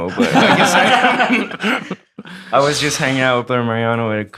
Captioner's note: all laughing